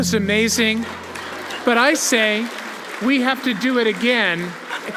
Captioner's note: applause